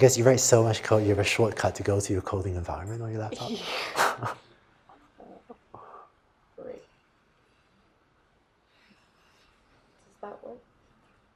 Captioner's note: laughter